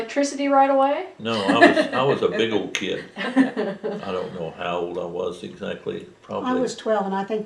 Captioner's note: laughter